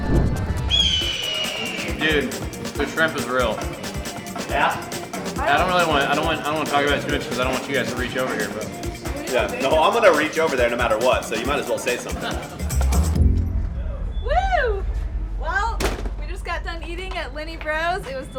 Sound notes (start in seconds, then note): 0.7 bird caws